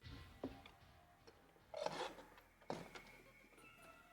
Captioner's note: chair clanking